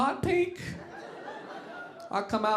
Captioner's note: audience laughing